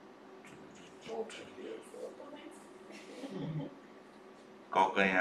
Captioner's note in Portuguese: risos